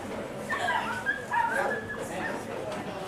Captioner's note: dog yelping